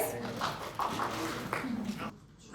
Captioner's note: people clapping